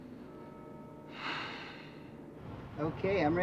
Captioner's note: sighs